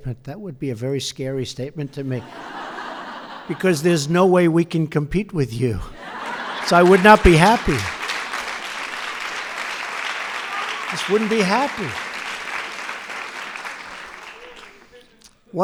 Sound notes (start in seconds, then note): 5.9 laughter; 7.9 applause